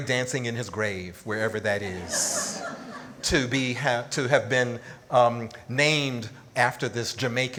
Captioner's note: audience laughs